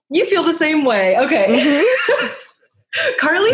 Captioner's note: laughter